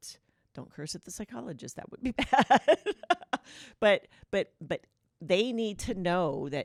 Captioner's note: laughter